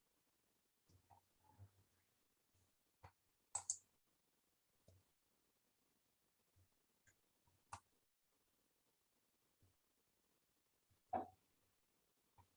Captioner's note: mouse clicking